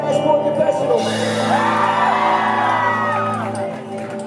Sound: crowd makes the noise

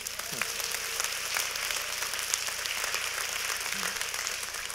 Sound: applaud

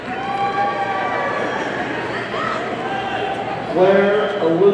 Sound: audience cheering

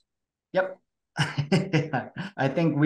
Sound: laughs

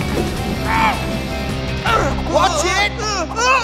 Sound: grunting

